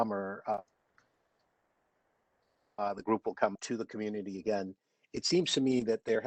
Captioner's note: audio drops